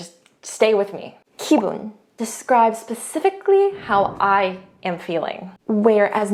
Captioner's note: speaks in Korean; speaking in Korean